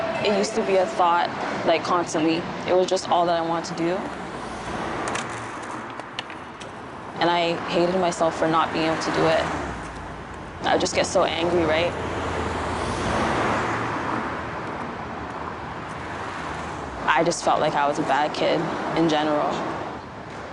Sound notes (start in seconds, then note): 15.9 cars whooshing